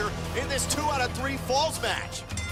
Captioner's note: bell ringing